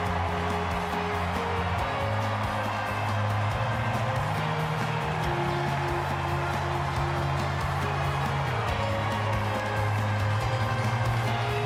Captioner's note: cheers